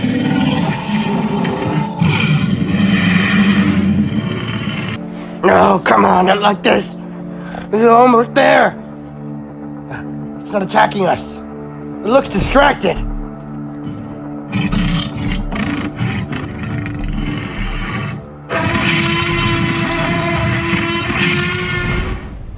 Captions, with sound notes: (T-Rex growling) No, come on, not like this. We were almost there. It's not attacking us, it looks distracted. (T-Rex grunting) (T-Rex roars loudly)